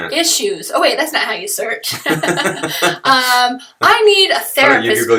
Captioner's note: laughter